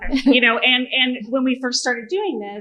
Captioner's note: laughter